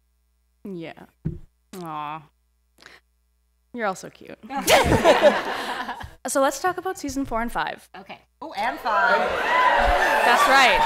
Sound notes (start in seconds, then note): 4.5 laughter